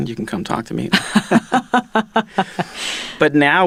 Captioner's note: laughing